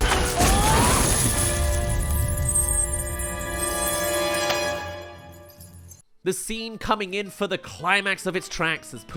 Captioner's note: money flies overhead